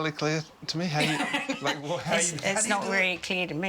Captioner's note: laughing